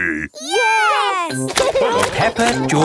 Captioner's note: laughing